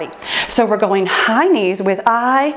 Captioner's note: timer beeps